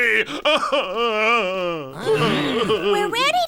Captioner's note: sobbing